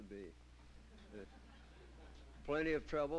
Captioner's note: laughter